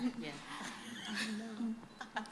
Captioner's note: laughter